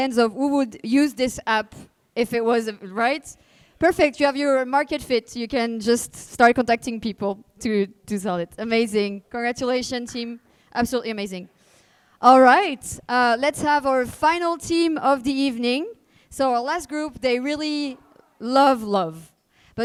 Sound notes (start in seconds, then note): none